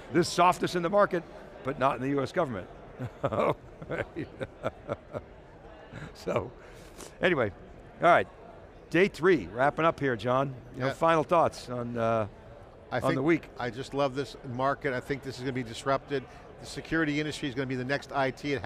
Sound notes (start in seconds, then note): 3.0 laughs